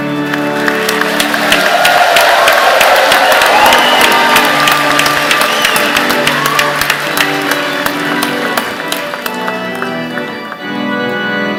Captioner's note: cheers and Applause